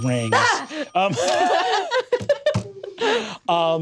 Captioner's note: yelps